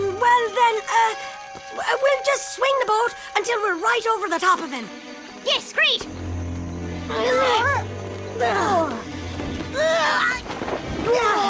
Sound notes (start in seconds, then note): 6.9 Ferny and Piggley grunting